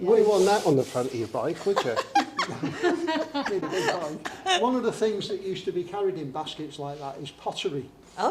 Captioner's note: laughter